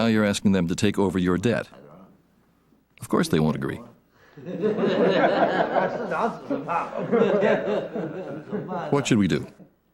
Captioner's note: nervous laughter